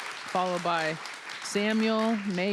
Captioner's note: applause